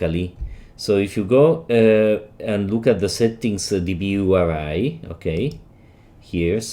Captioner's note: click